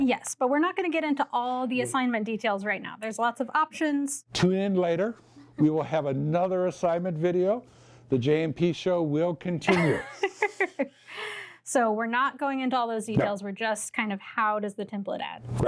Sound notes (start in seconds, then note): 9.7 laughs